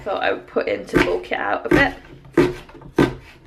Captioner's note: chopping sounds